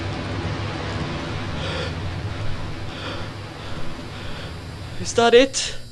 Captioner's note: heavy breathing